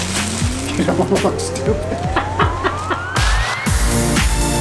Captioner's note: laughs; playful music